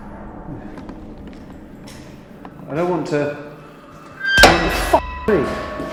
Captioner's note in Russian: дверь закрылась